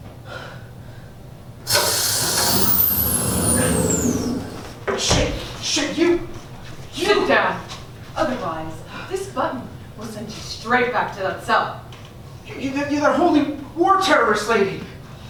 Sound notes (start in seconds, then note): 1.6 electronic gate opens